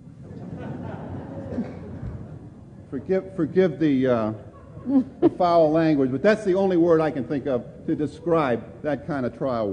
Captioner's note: laughter